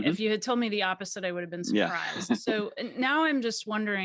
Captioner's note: chuckles